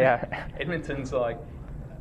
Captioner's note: laughs